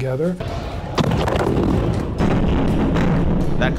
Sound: bombs exploding

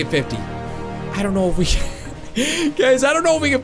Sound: laughs

